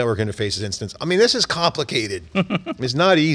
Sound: laughs

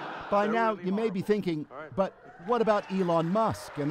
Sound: laughter

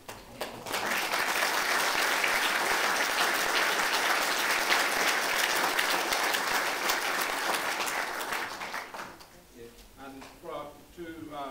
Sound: applause

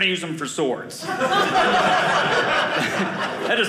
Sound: audience laughing

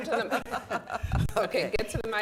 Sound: laughs

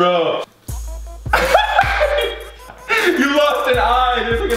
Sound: laughs

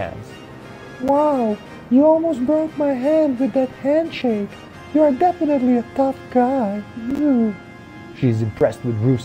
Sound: swoons

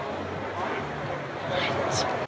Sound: whispers

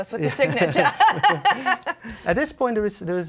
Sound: laughter

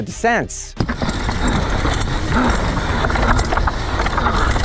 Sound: bike clattering

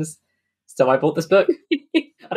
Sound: laughs

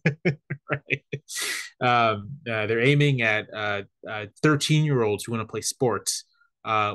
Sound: laugh

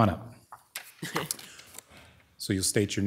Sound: member chuckles

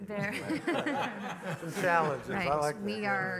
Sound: panelists laughing

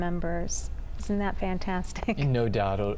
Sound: laughter

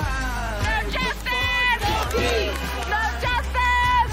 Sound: chanting

